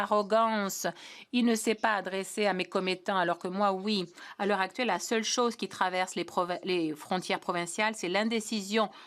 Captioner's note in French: voix de l'interprète